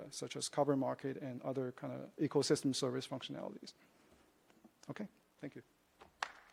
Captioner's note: applause